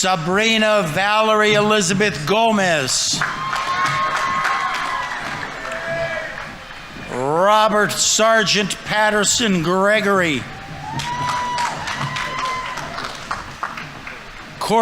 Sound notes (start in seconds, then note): 2.7 audience applauding; 3.3 audience members cheering; 10.3 audience applauding; 10.9 audience members cheering